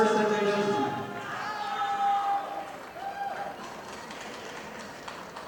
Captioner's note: audience applauding